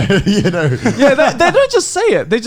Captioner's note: laughing